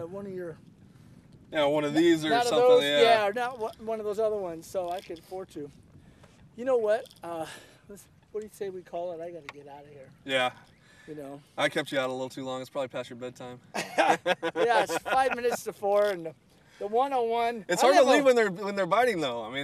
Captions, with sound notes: one of your yeah one of these or something yeah or one of those other ones so I can afford too you know what what do you say we call it I got to get out of here. yeah I kept you out too long it is probably past your bed time [laughter] it's 5 minutes to 4 and the 101.. it's hard to leave when they are biting thou